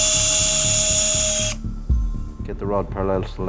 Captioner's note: tool whirring